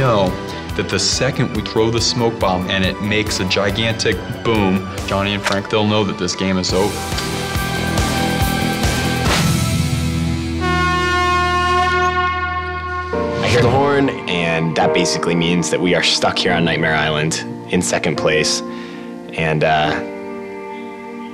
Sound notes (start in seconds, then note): 7.0 upbeat music; 10.4 horn blowing